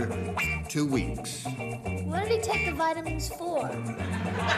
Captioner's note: laughter